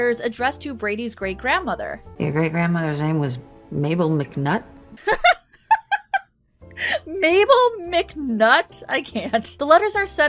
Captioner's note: laughing